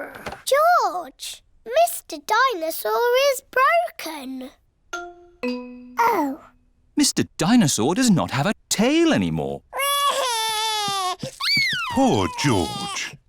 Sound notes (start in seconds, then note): 9.7 crying